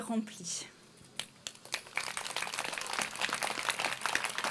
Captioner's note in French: Applaudissements